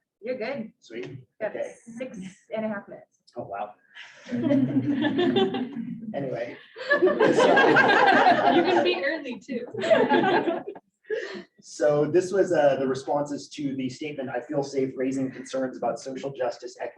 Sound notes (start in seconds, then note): 4.2 audience laughing